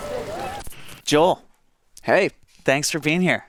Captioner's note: electricity hisses